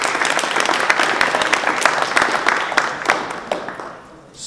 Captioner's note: crowd applauding